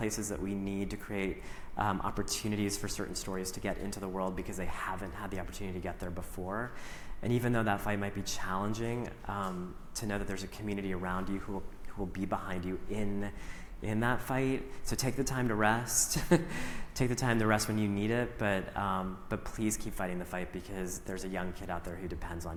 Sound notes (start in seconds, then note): 16.2 chuckles